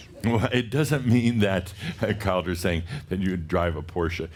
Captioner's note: chuckles